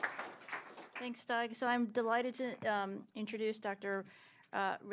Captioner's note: applause